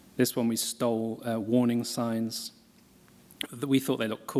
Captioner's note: none